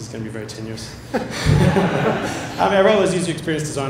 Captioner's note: laughter